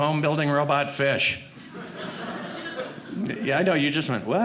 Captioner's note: audience laughing